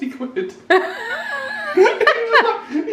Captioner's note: laugh